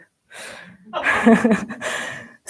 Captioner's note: laughs